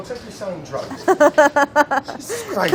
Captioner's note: laughing